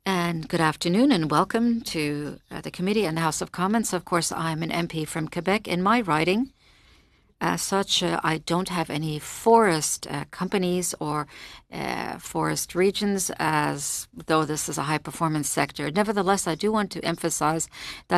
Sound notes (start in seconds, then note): 6.0 speaking French